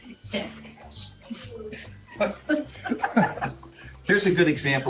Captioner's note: laughter